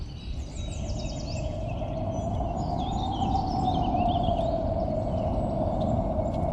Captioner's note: birds Chirping; wind Howling